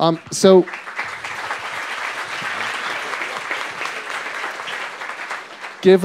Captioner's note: applause